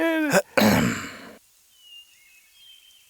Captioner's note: servant laughing joyously; centurion clearing throat